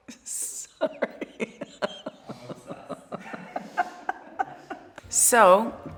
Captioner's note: laughing